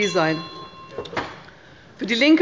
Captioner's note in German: Anhaltende Unruhe – Glockenzeichen des Präsidenten